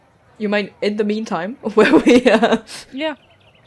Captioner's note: laughing